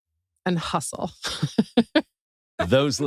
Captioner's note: laugh